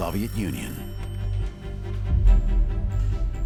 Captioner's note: phone rang shortly